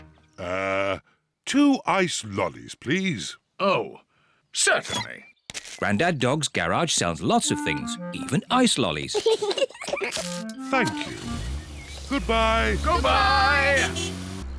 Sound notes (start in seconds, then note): 9.1 both laugh